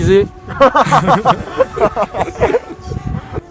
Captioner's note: laughs